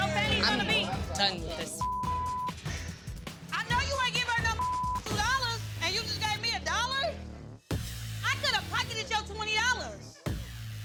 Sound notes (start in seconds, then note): 1.8 beep; 4.5 beep